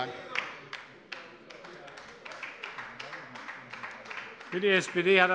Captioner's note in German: Beifall bei der LINKEN